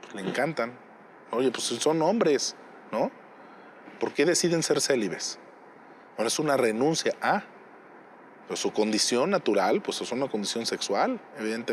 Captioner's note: speaking in Spanish